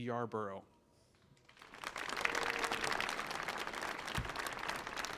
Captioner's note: audience applauding